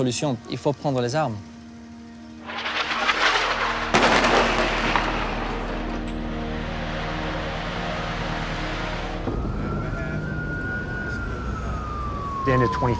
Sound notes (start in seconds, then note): 2.5 guns firing; 9.9 sirens sounding